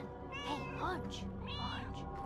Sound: Hodge meows

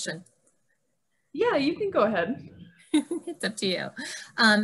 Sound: laughing

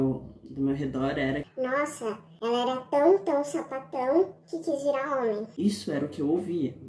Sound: high pitched voice

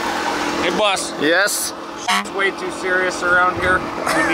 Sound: car horn honks

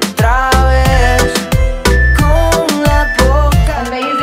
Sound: beeping

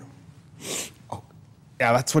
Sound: sniffs

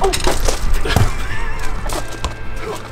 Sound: laughing

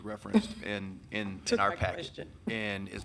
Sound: chuckling

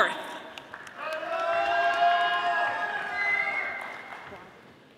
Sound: audience applauding

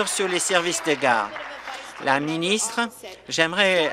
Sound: applause

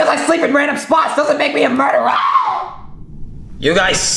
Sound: screams

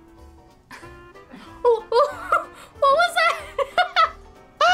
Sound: chuckles; laughs

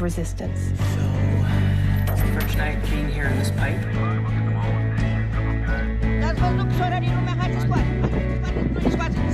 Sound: exhales

